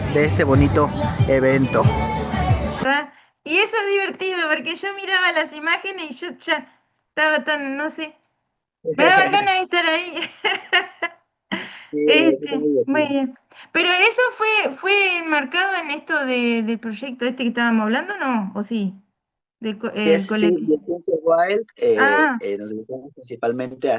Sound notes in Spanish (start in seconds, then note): 9.8 risas